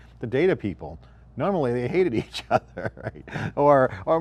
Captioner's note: giggles